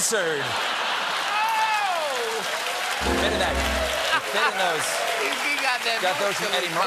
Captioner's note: laughter; applause; piano riff